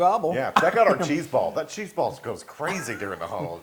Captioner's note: laugh